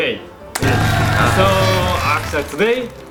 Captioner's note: cheering